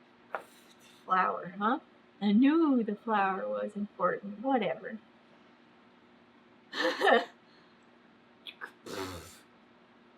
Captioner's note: laughs and blows raspberries